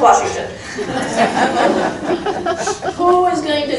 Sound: crowd laughing

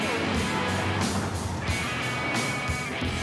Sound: car horns honking

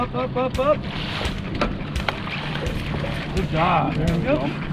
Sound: fish splashing

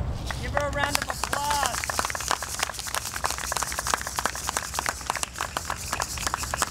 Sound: audience applauding

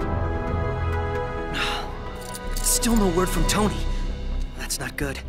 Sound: sighs

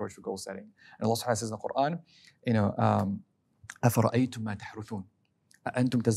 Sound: speaking Arabic

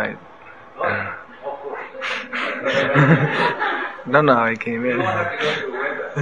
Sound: laughs

